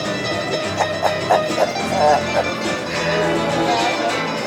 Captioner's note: laughs